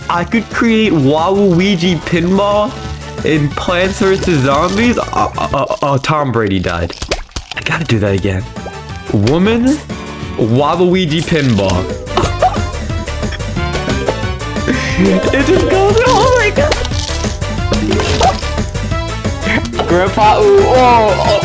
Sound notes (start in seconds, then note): 12.1 laughs to myself; 14.7 exhales Oxygen; 17.9 laughs to myself; 19.2 exhales Oxygen